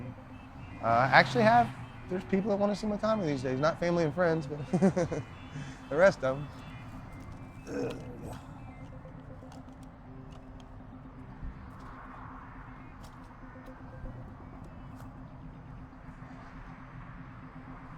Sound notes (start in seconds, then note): 4.3 laughs; 7.6 grunting